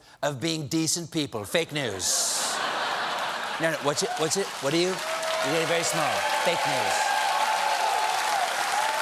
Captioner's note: laughter